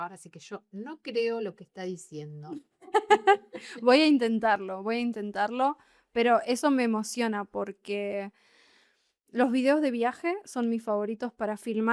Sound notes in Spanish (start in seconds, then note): 2.8 risas